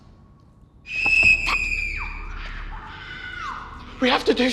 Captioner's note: Hermione Screaming